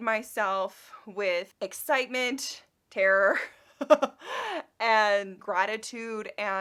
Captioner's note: laughs